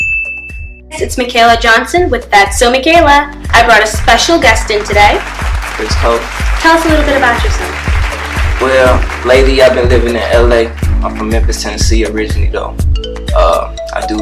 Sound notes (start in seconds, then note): 0.0 bell dinging; 4.9 audience clapping